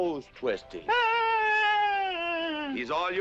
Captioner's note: Fauntleroy screaming